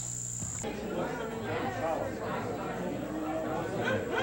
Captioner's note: crowd noise